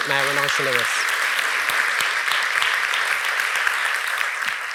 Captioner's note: audience applauding